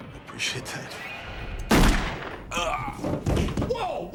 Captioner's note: gunshot